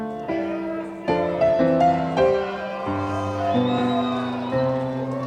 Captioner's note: audience shouting encouragement